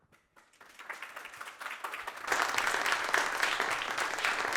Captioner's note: applause